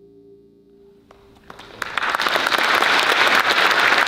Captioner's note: applause